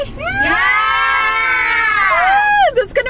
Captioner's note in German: Leute jubeln